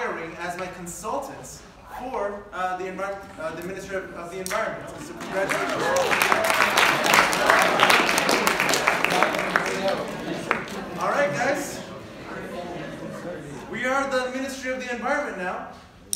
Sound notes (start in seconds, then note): 9.7 applause